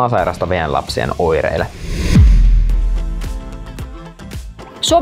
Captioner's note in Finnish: siirtymä-äänitehoste